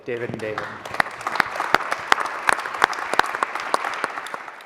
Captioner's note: applause